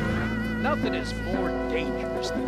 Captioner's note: voiceover